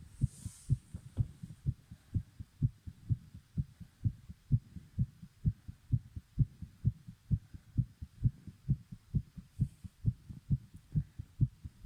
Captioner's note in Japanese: この辺りから 心音がかなり速くなっていきます; かすかに呼吸音が入ってます